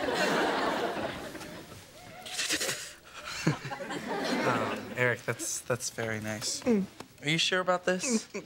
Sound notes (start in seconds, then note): 2.1 stifled sobbing